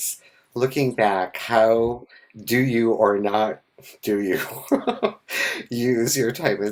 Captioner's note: laughs